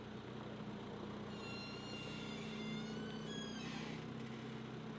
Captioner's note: crane creaking